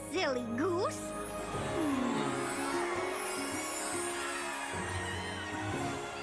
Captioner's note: all cheering